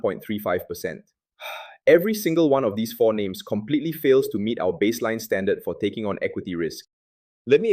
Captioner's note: sighs